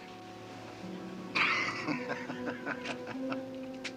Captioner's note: Wardell laughing